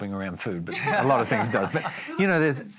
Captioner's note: laughs